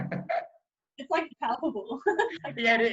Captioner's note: laughing loudly; chuckles